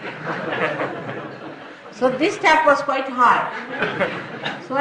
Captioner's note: laughter